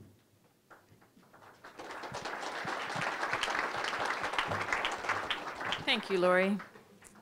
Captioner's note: applause